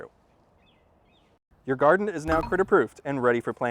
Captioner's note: ding